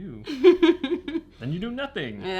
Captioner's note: laughs